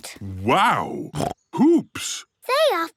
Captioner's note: snorts